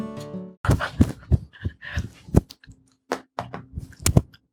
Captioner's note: heavy breathing